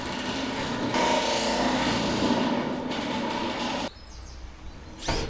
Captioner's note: drill whirring